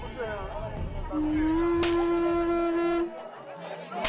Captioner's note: horn blares; whip cracks